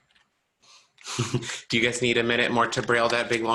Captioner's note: chuckles